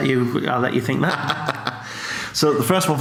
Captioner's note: laughs